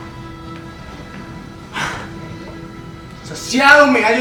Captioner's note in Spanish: Exhala